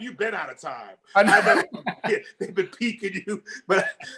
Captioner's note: laughing